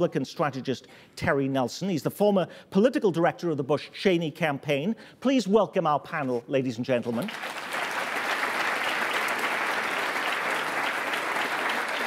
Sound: applause

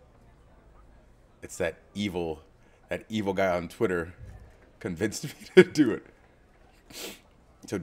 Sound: laugh

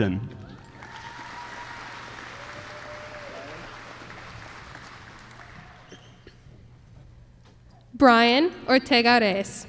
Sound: applause

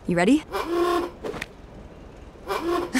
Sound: honking; laughing

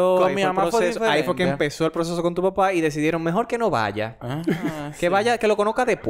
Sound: laughs

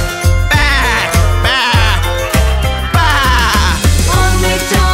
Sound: sheep bleating

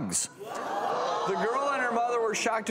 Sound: audience groans

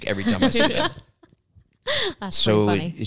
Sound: laugh

